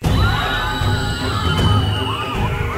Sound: crowd screaming

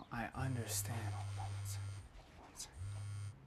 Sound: phone vibrating

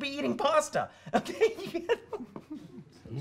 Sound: laughs

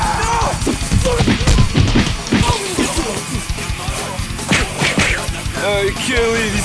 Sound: heavy metal music; fighting sound effects

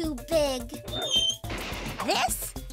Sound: crash!

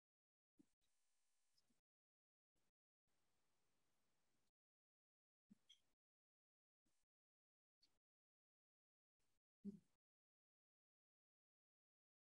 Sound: silence

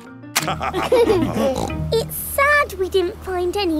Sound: laughter

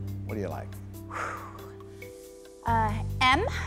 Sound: exhales deeply

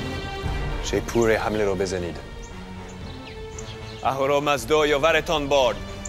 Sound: Xerxes speaking in foreign language

